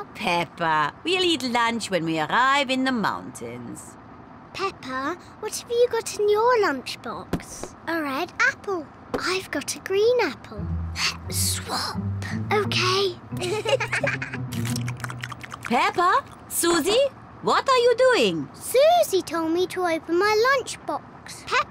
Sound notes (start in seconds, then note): 11.1 whispering; 13.4 both giggle